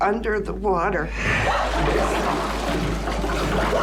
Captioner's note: gasping